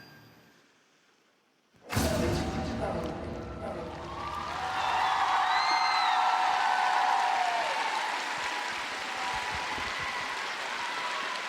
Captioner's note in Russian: ликование